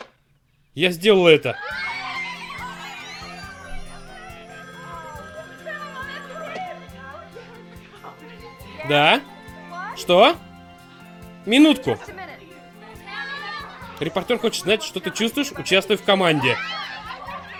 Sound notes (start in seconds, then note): 1.5 all cheering; 4.5 telephone rings